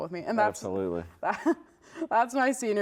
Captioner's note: laughs